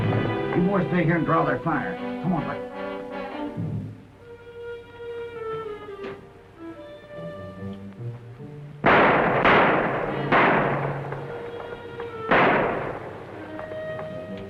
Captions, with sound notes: You boys stay here and draw their fire. Come on, Buck. [ WORRYING MUSIC ] [ GUNSHOTS ]